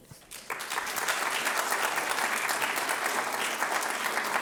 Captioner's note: audience applauding